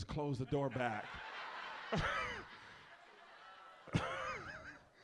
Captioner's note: audience laughs